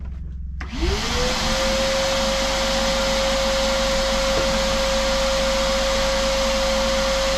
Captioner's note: vacuum whirring